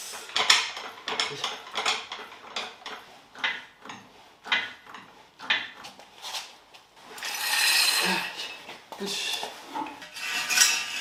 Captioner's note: working sound